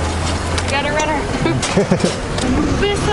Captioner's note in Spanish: Risas